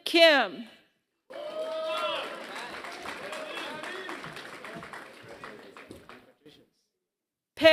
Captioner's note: applause